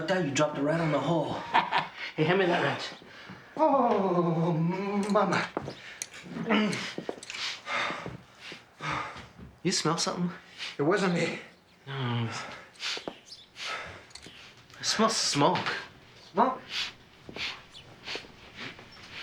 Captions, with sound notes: You dropped it right on the hole. (Joe chuckling) Hey, hand me that wrench. - Oh... mama! (Harvey panting) - You smell something? - It wasn't me. - No. (Joe sniffing) - I smell smoke. - Smoke? (Joe sniffing)